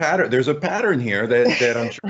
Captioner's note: chuckling